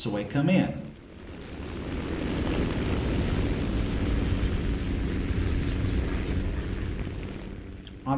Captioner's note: aircraft Engines ,Gunfire, Flying Sounds